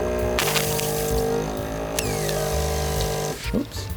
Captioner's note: motor whirring